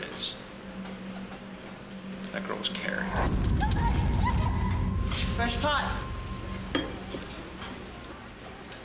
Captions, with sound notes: THAT GIRL WAS CARRIED. [screaming] FRESH POT.